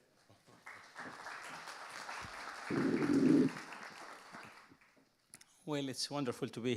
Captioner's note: audience applauding